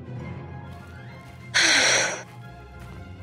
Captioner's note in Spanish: suspiro